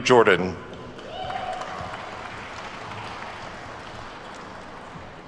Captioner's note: attendees clapping